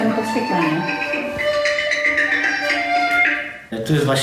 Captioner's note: the phone is ringing